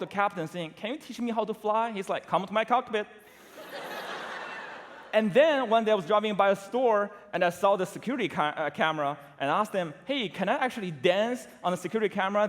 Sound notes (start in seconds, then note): 3.3 laughter